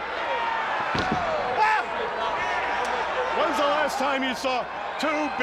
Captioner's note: crowd cheering